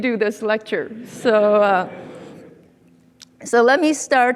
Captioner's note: audience laughing